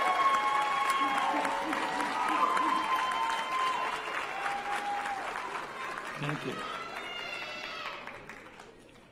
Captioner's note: cheers and applause